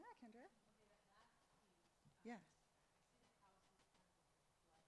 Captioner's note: speaks faintly